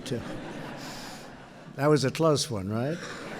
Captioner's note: laughter